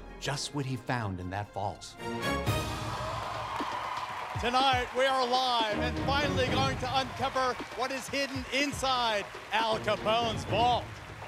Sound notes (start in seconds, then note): 2.2 suspenseful chord strikes; 3.2 cheering and applause